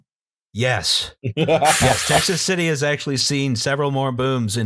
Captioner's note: laughter